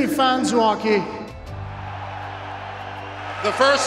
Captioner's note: cheers